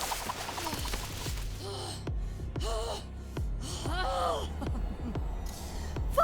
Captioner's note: intense and exhausted breathing